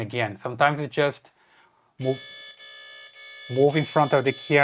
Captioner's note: alarm beeping